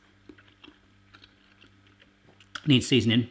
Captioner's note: chewing